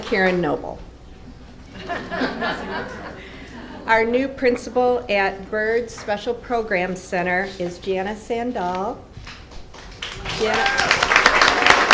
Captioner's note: applause